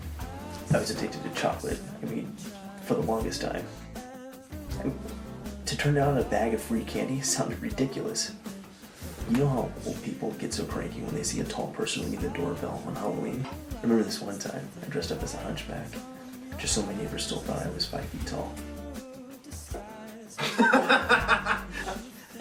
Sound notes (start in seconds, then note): 20.4 Greg and Ron laughing